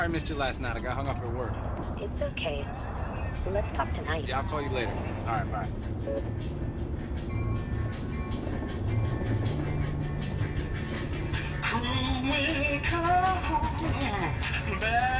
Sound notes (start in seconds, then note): 6.9 tram bell ringing; 8.5 lively pop music